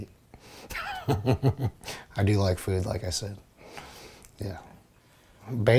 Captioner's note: laughs